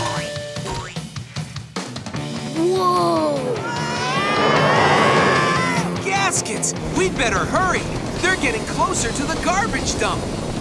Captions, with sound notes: Whoa! [screaming] Gaskets! We'd better hurry. They're getting closer to the garbage dump.